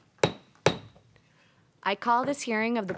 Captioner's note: hammer tapping